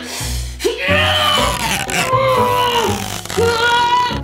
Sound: grunting

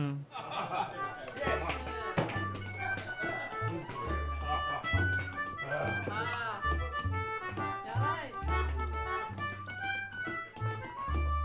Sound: laughter and sounds of bar patrons

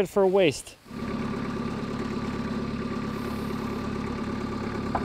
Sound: machine whirring

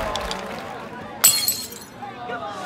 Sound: glass shatters

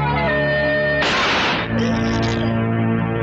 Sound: gun Shot

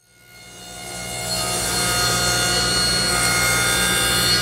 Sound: panel cutter buzzing

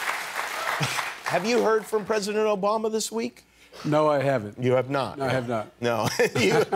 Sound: cheers and applause

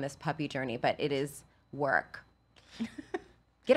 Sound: laughs

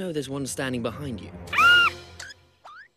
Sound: scream™

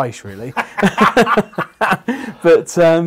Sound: laughing

